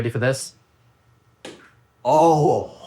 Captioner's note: egg popping